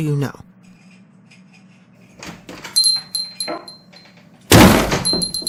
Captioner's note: door opens and slams shut violently